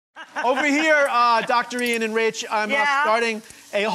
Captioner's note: laughing